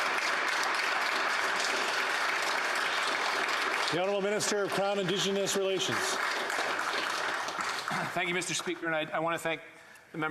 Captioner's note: applause